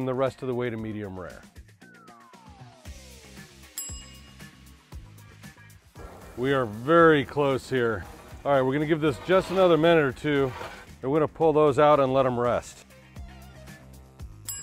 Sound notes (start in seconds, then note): 1.9 upbeat music; 3.6 timer dings; 3.8 upbeat music; 12.9 upbeat music; 14.4 timer dings